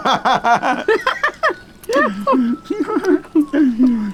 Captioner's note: both laughing